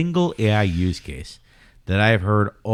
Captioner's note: uh